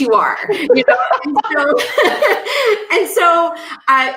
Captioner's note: laughing